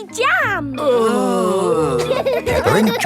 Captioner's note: groaning; laughing